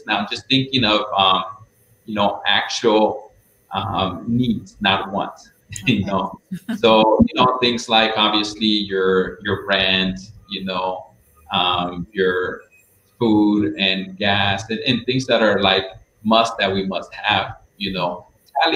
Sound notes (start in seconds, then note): 5.7 chuckles